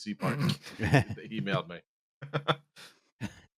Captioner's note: laughter; chuckles